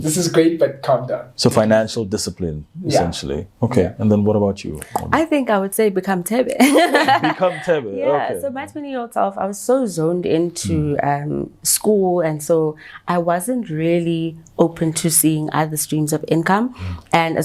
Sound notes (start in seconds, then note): 6.6 laughs